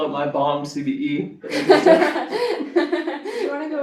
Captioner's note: chuckles